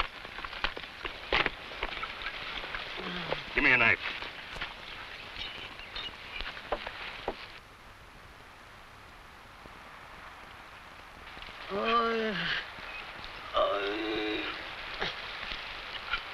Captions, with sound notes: (man groans) - Give me a knife. (man groans)